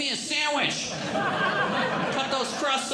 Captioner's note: audience Laughing